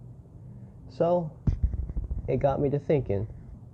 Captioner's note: mic bump